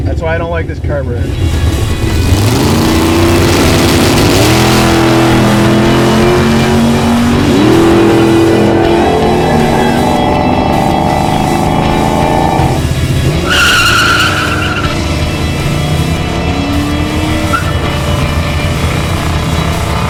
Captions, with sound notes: - That's why I don't like this carburetor. (intense energetic rock music) (engine revs) (tires squeal)